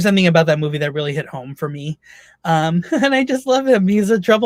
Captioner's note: laughs